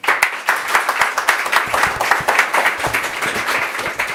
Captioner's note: audience applauds